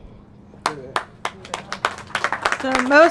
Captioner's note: applause